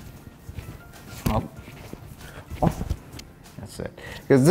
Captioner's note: arms smacking together